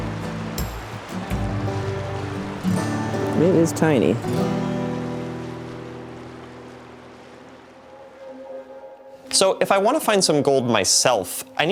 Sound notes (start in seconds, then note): 0.0 twangy guitar music; 0.1 water rushing; 6.1 subdued water rushing